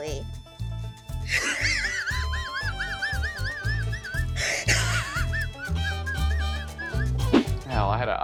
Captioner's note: laugh cries